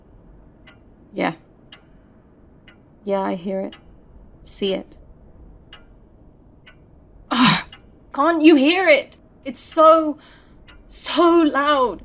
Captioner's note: groans